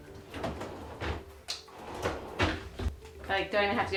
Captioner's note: drawer thudding